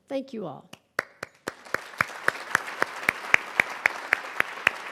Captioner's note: crowd applauding